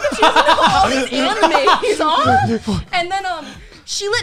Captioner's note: laughing